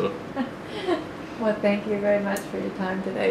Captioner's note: laughter